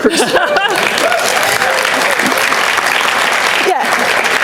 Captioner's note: applause